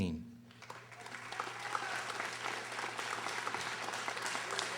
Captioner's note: audience applauding